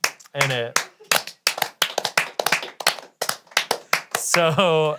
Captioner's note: all clapping